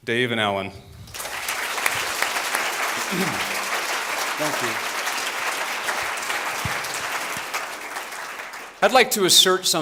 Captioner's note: applause